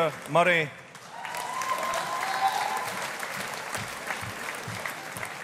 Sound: audience applauding

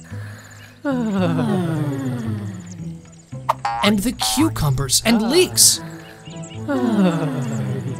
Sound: everyone sighed

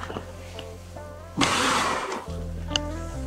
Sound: exhales; melancholy music

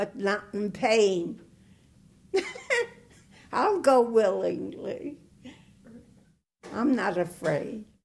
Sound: laughter

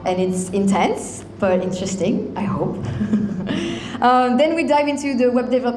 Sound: chuckles

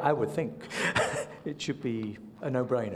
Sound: laughs

